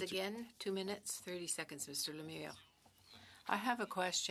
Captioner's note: speaking French